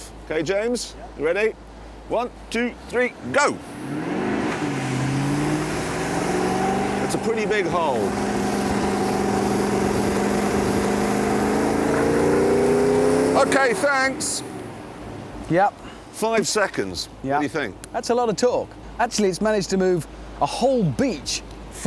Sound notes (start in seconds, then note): 4.3 engine revs